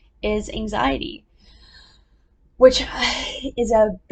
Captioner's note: big inhale